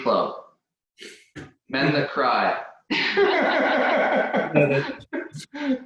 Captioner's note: laughter